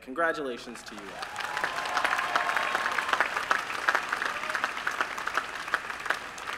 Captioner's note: applause